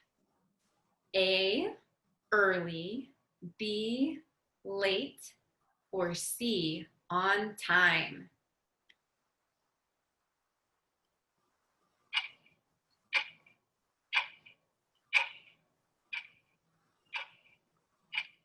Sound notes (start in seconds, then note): 12.6 clock ticking